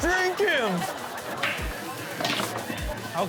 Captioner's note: upbeat music; balls clicking